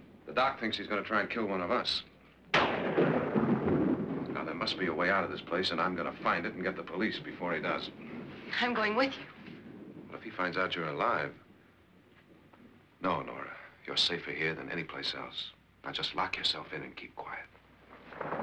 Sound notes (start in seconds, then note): 2.5 thunder rolls